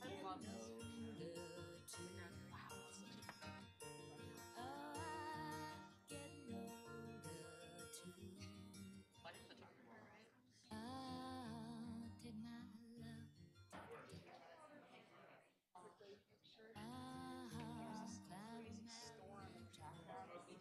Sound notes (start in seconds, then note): 13.7 chatter; 16.4 singing